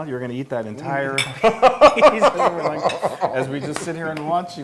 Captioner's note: laugh